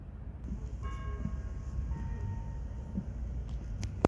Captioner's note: church bells chime twice